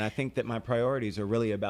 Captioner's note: Hablando ingl\s